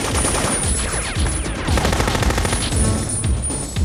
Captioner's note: machine gun firing; machine guns firing